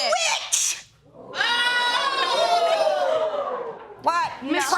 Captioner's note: audience whooping